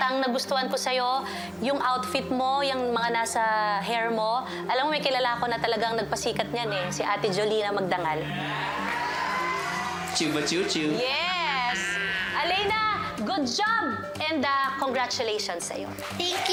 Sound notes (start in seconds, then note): 8.2 crowd cheering